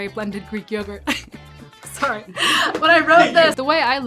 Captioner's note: laughs